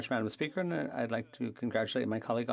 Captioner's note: speaking French